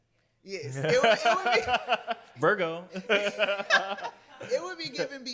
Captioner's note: laughs